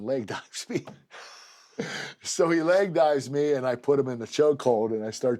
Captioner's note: laugh